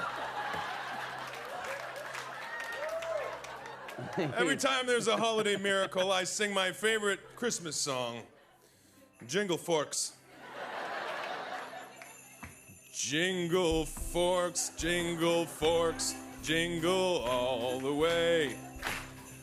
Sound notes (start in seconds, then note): 0.1 laughter; 10.3 laughter; 11.6 bells jingling